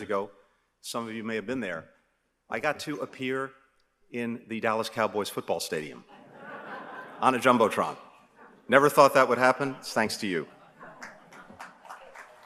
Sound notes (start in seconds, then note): 6.1 laughter